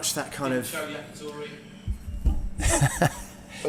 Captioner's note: man mutters off-camera; laughs